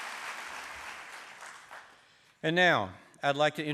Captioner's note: applause